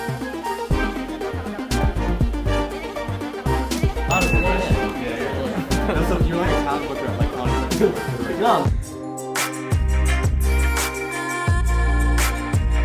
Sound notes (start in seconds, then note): 0.3 bright music; 4.1 bell ding; 5.8 music drowns out conversation